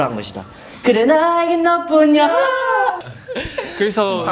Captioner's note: doing the voice crack